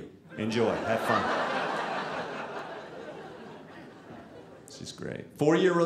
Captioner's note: audience laughing